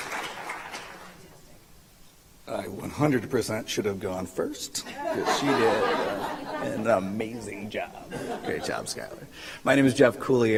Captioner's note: applause